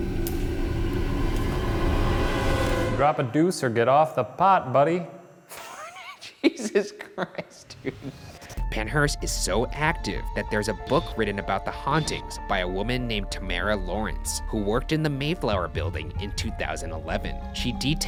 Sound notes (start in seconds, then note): 0.0 ominous music; 5.5 laughs